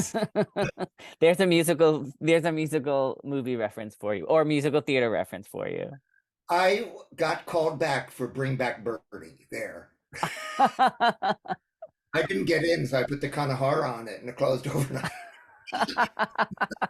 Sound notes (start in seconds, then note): 10.1 laugh